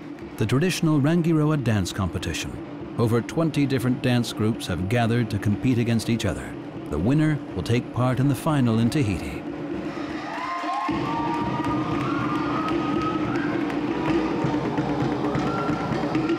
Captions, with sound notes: The traditional Rangiroa dance competition. Over 20 different dance groups have gathered to compete against each other. The winner will take part in the final in Tahiti. -[drums beating] -[cheering and applause]